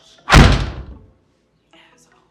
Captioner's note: door slams